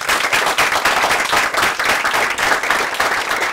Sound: applause

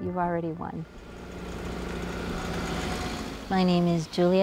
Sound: car engine roars

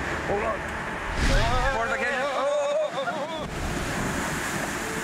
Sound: yelling

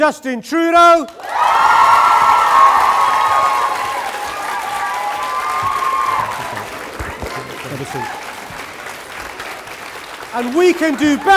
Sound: cheering & Applause

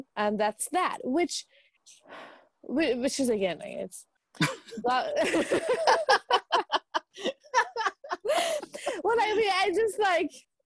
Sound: laughing

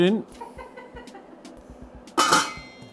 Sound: laughs

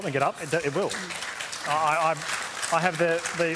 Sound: scattered applause

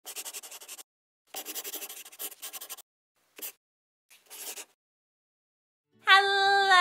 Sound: the sound of a pen scratching

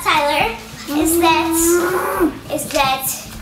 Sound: growling

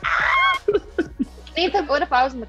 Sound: laughing

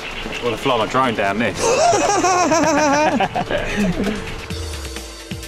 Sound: laughs lightly

